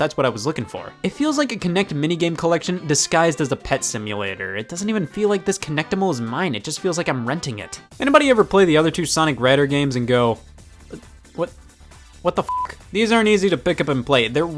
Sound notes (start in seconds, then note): 12.4 beep